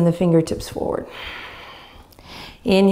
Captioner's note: exhaling deeply